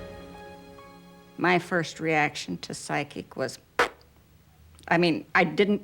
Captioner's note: pfft